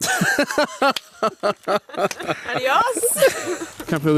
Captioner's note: laughing